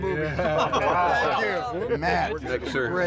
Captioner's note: all chattering, laughing